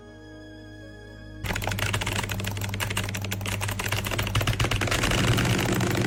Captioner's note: typing